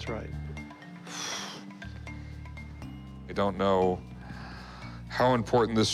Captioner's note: sighs